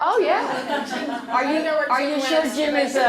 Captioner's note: laughter